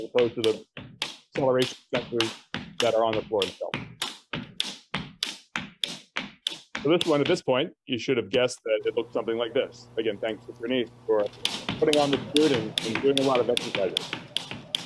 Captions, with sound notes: as opposed to the acceleration sensors that are on floor itself. (floor clicking and tapping) So this one, at this point, you should've guessed that it looked something like this. Again, thanks to Praneeth, for putting on the suit and doing a lot of exercises.